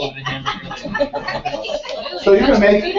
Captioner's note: laugh